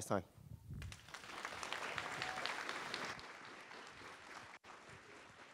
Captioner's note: applause